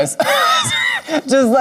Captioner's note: Lady Camden laughing